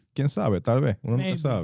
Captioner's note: speaking In Foreign Language